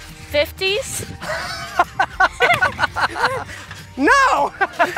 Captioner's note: laughs